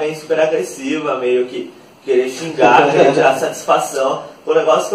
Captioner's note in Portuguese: risos